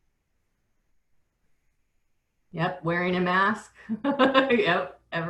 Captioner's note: pause